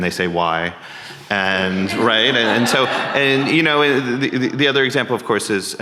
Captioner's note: audience laughing